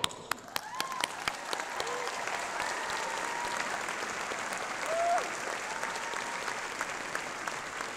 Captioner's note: applause and cheering